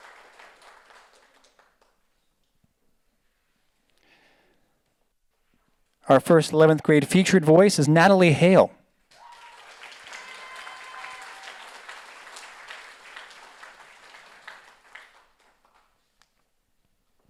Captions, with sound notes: Our first 11th grade featured voice is Natalie Hale. (audience applauds)